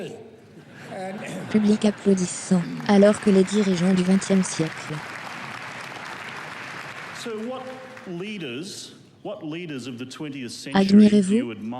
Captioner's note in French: public applaudissant